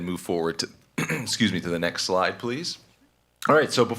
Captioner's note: clears throat